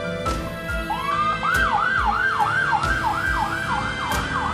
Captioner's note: ambulance siren blaring